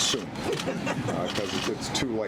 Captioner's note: laughter